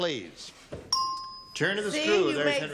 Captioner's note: ding